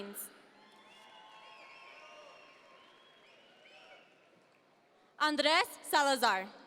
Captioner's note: audience members cheer